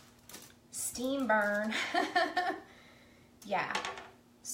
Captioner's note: laughing